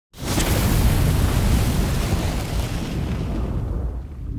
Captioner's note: fire sizzling